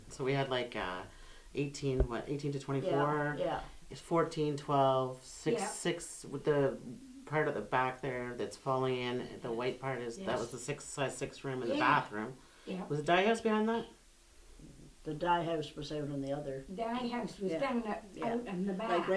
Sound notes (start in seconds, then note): none